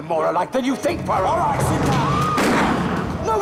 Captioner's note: tembakan